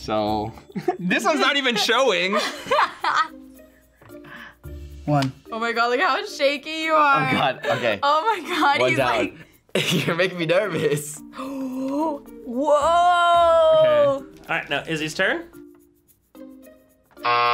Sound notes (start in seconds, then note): 1.4 laughs; 10.1 laughs; 11.3 gasps